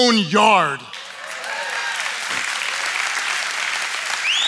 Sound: audience cheering

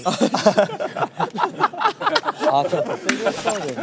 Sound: happy audience

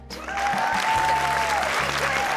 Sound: cheering, applause

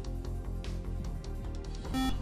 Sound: intense music; buzzer

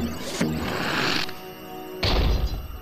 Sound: suction noise

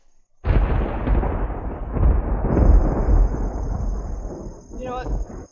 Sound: thunder

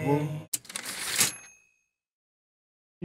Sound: typewriter ding

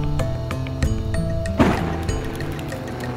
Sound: explosion booms; fire crackles

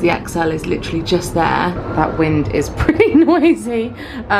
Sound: wind howling

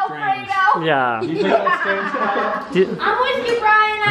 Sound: laughing

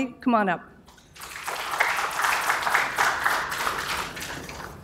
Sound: applause

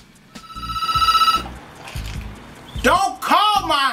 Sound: phone rings

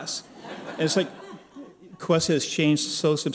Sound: laughter

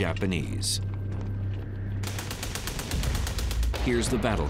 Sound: gunshots

